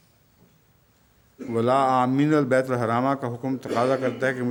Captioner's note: Arabic